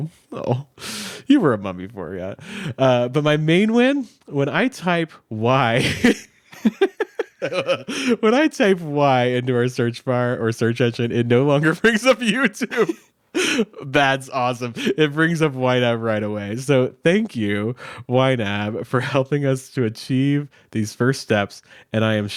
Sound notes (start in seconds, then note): 5.8 both laughing